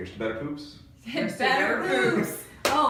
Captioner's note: in Unison